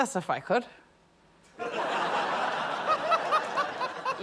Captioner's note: laughter